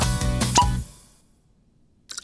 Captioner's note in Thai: เสียงดึงจุกก๊อก; เพลงดับ เงียบสนิท